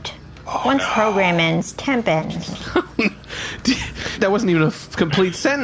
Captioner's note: laughing